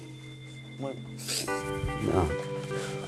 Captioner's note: sniffling